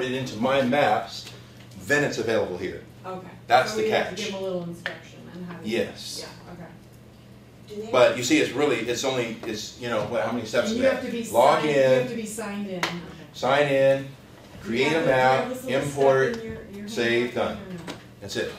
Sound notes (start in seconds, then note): none